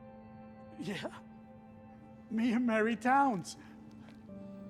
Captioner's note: laughs